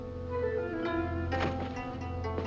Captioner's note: thuds